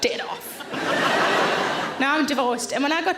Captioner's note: audience laughs